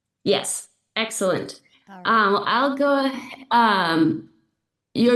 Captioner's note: echo